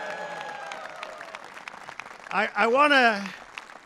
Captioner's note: applause